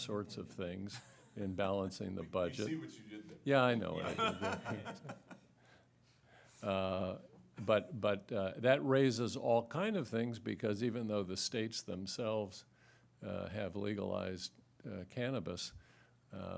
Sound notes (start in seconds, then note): 9.6 laughter